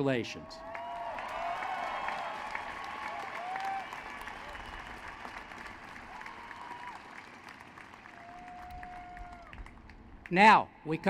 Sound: applause

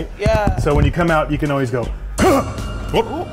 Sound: grunts

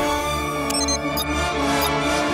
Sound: beeping

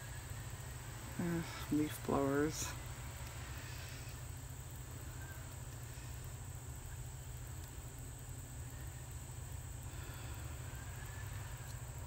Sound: sighs

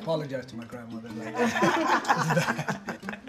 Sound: laughter

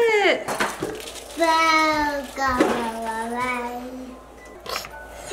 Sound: babbling

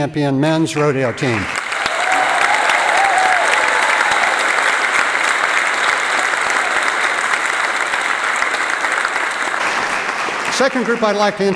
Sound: applause

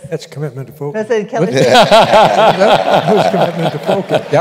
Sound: laughter

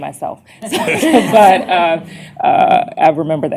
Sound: laughter

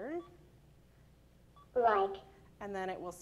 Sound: electronic Voice

